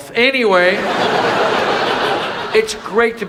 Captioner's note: audience laughs